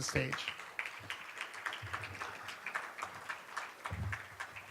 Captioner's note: applauding